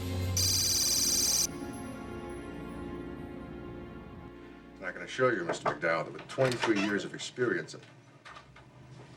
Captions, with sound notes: (computer beeps) (suspenseful music) - I can assure you, Mr. McDowell, that the 23 years of experience, one moment.